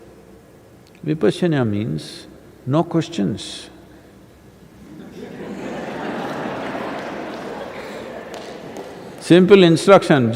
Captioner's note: laughter